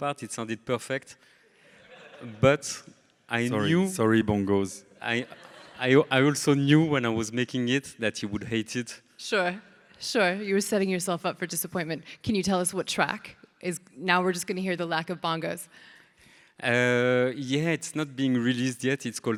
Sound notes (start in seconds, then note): 1.8 audience laughing; 5.1 audience laughing